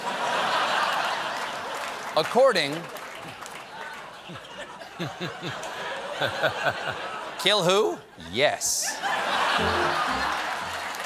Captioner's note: laughter